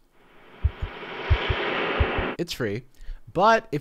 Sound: intense music; heart throbbing

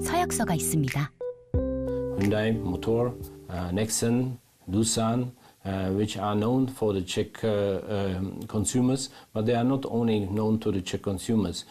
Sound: voiceover

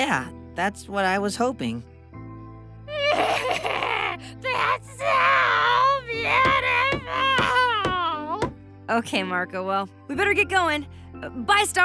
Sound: cries

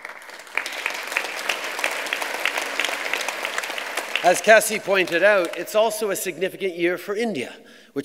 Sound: applause

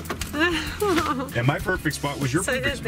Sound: laughing

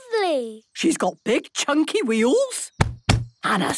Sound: thumping

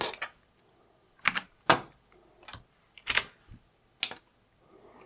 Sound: blank Audio

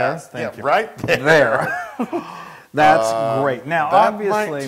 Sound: laugh

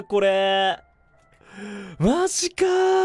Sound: inhales

